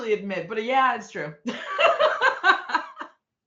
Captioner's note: laughing